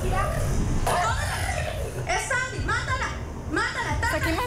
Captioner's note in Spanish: gruñidos